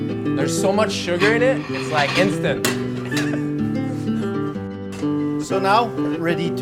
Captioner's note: laughing